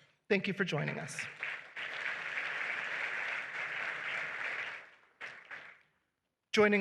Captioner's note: applause